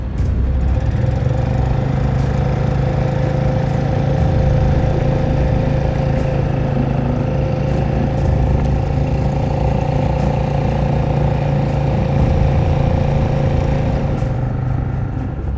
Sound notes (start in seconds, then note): 3.2 boat revving